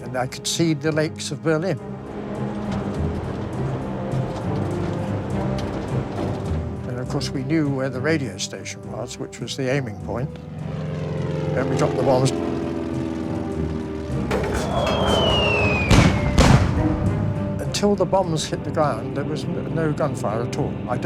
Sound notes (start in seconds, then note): 15.8 bombs exploding